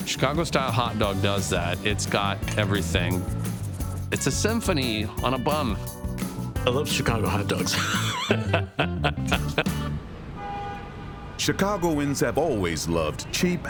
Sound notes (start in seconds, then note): 7.3 laughing